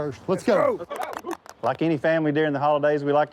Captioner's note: firefighters claps hands